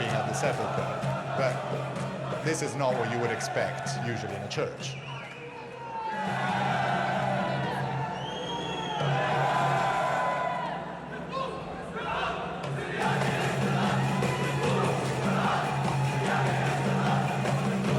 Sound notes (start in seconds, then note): 6.6 crowd chants in foreign language